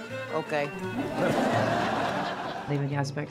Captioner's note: laughter